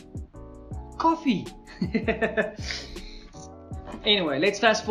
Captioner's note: laughs